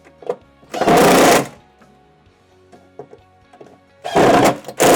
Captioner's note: drill hammering